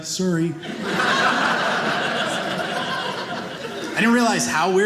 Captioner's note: audience laughing